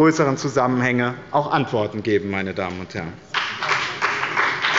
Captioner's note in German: Beifall bei dem BÜNDNIS 90/DIE GRÜNEN und Abgeordneten der CDU